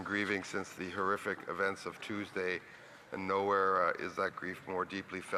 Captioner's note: speaking French